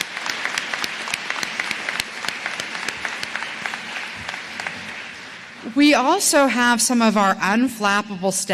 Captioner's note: applause